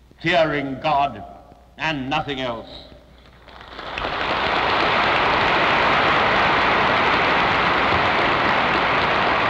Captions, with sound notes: fearing God and nothing else. [APPLAUSE]